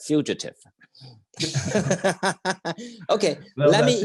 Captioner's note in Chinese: 互相大笑